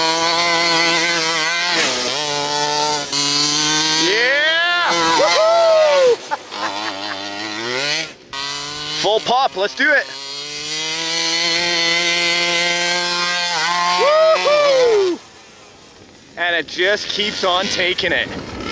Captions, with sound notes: Yeah! Woohoo! (laughs) Full pop, let's do it! Woohoo! And it just keeps on takin' it.